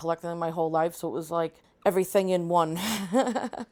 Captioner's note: laughs